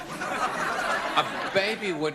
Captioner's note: laughter